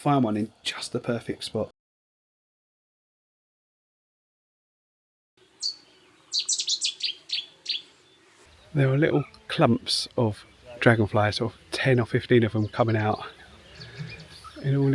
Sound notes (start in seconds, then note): 5.4 birds chirping